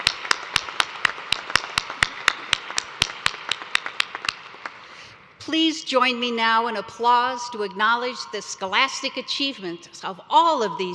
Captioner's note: applause